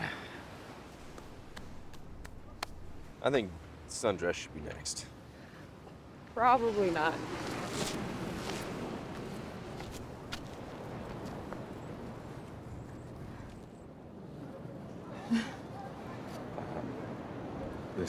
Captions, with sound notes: - I think Sundress should be next. - Probably not. (waves crashing) (Fern laughs)